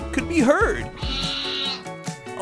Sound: bleating

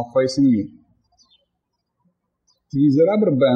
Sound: birds chirping

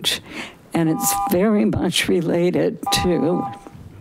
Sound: buzzer beeping

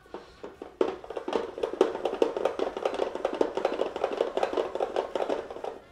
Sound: vegetable spiralizer clacking

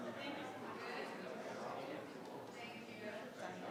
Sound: members chattering

